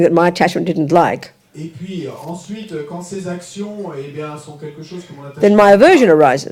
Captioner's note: audience member speaks in French